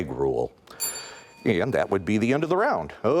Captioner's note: timer dings